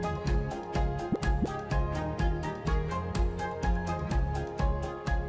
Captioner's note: graphic bubbling